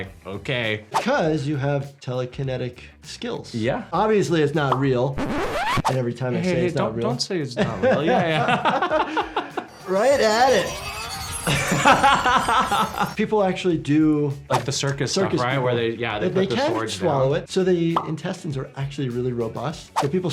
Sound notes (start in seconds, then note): 7.6 both laugh; 10.4 sword whirs; 11.4 laughs